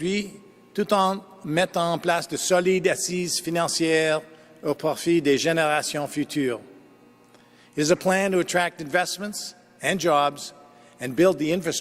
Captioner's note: speaking French